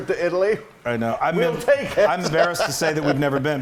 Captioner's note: laugh